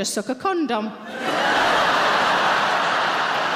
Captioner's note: audience laughing